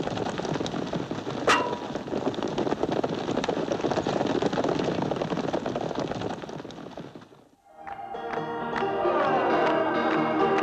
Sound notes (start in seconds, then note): 1.5 clangs; 7.7 jaunty piano music playing